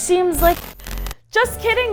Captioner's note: crackle; cheery music